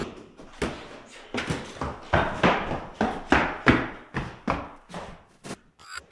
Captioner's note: feet stomping; ball thudding; static crackling